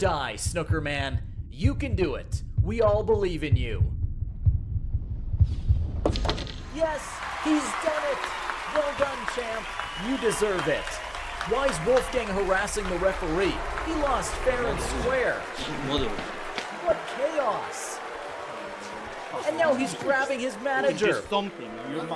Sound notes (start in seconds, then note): 3.9 heart thumps; 6.3 audience cheers